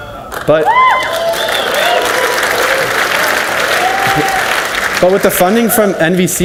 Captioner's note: audience cheers and applauds